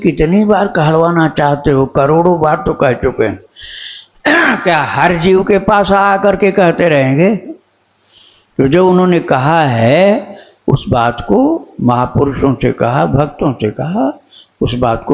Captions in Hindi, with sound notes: कितनी बार कहलवाना चाहते हो करोड़ों बार तो कह चुके हैं [गला साफ़ करने की आवाज़][खांसने की आवाज़] क्या हर जीव के पास आकर के कहते रहेंगे तो जो उन्होंने कहा है उस बात को महापुरुषों से कहा भक्तों से कहा उस बात